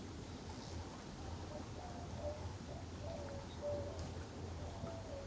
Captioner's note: distant dove cooing